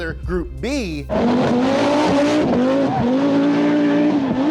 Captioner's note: engine revving